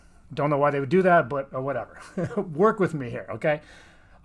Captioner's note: chuckles